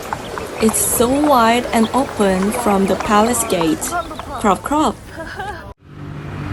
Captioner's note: clop clop